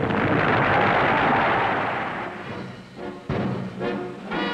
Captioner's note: Nazis applauding; dramatic marching band music